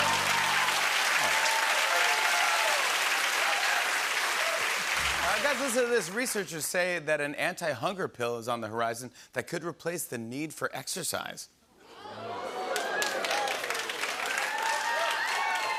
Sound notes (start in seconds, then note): 0.0 cheers and applause; 11.7 audience oohs; 12.0 cheers and applause